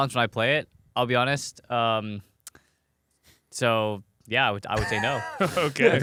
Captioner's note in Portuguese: risos